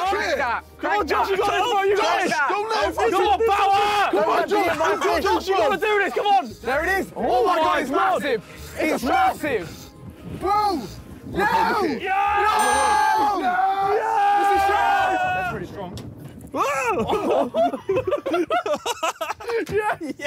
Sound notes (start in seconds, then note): 0.9 Sidemen yelling; 11.4 Sidemen yelling; 16.8 Sidemen laughing